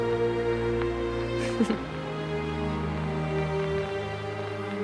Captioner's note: laughs